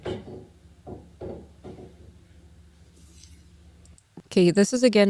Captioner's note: knocking sound behind her